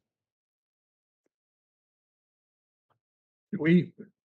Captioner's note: silence